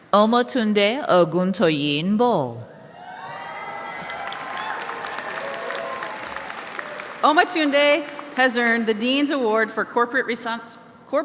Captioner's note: applause